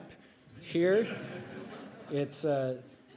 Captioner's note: audience chuckling